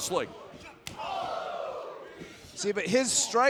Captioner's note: crowd exclaiming